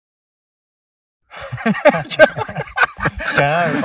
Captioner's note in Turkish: Kahkaha